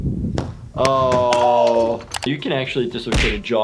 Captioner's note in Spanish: Harry gritando